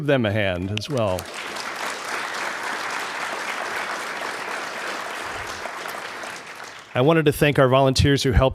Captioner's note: applause